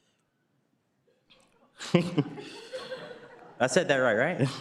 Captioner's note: laughs